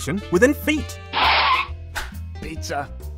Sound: car screech

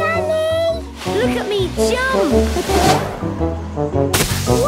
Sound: laughing

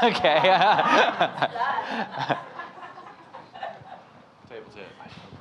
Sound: laughing

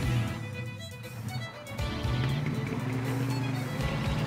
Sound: engines start up

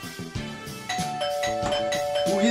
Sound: doorbell rings

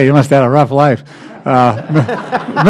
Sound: laughter

